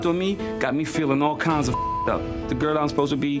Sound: beep

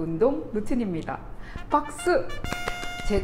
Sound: clap clap clap

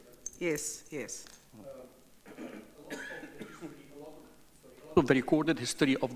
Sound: speaks off microphone

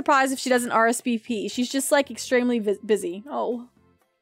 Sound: sadly

